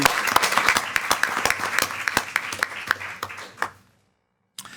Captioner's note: all applauding